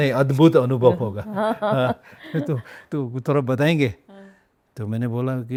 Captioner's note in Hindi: हंसी